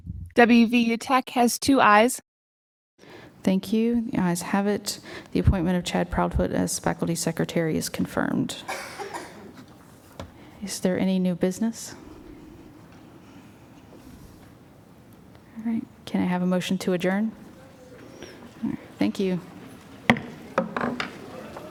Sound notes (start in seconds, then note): 12.4 silence; 20.0 gavel pounding